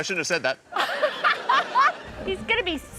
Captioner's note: laughs